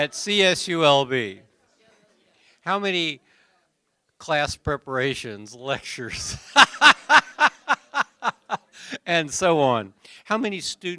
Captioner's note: laughter